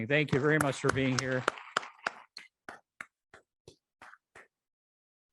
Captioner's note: audience applauding